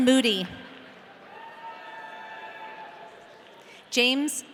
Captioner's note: audience cheering